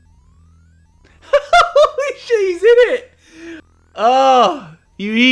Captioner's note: laughing